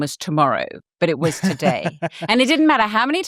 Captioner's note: chuckles